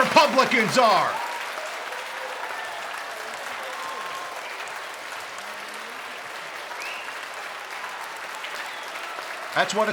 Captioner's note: cheers and applause